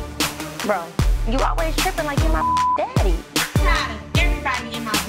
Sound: beep sound

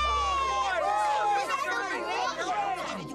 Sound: cheering

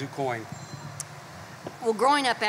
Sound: phone rings

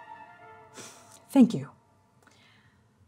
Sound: exhaling

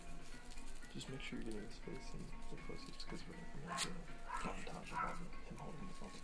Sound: murmuring

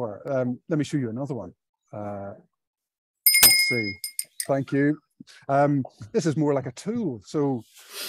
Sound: bell rings

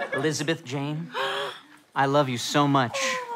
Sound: gasps

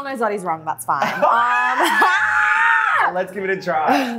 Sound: both laugh loudly

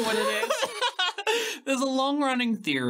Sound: laughing

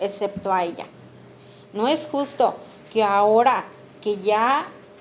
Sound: speaking Spanish

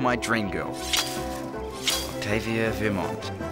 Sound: blade chopping

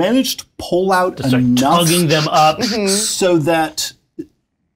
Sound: makes machine noises

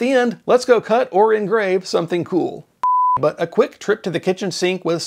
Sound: beep

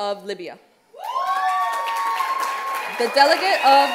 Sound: cheers

